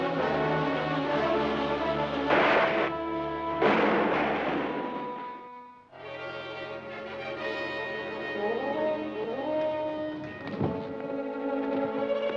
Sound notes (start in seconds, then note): 3.5 loud crash; 6.2 mysterious music